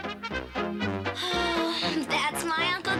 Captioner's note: sighs